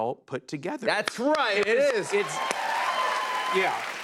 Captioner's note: cheers and applause